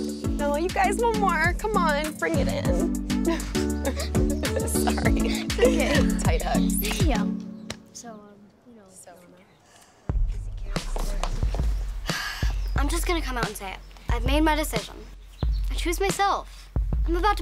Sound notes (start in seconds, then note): 3.2 all laugh; 6.9 chatting; 12.0 sighs